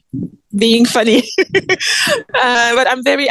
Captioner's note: laughs